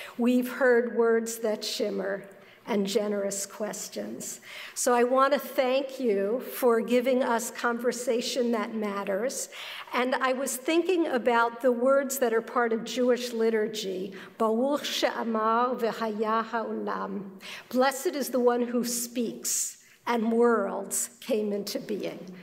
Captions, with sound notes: We've heard words that shimmer and generous questions. So I want to thank you for giving us conversation that matters and I was thinking about the words that are part of Jewish liturgy-- [ Foreign Language ] Blessed is the one who speaks and worlds came into being.